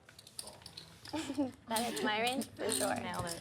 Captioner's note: laughs